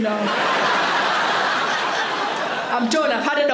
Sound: audience laughs

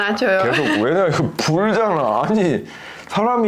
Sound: laughing

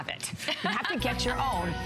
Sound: laughter

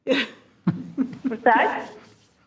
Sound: group chuckles

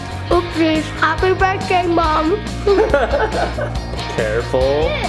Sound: laughs

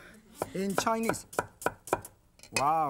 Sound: knife thudding

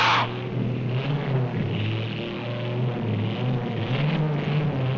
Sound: yelling; car engine running

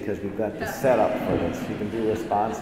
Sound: assembly laughs

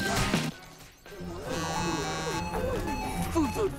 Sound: buzzing, chiming

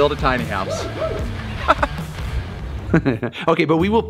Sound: chuckling

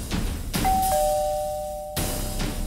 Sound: doorbell ringing

